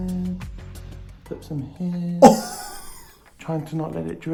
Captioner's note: laughs